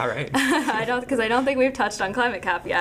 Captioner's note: laughing